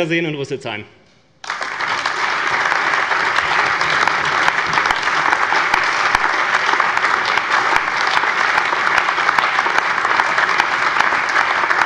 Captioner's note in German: Lebhafter allgemeiner Beifall